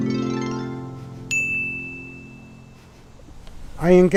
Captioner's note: bell chiming